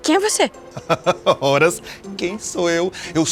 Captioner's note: man laughs